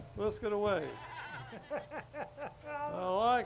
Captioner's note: group laughs